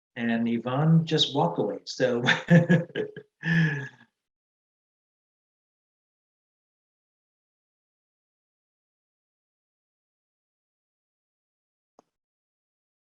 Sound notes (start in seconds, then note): 2.2 chuckles